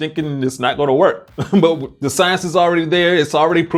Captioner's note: chuckles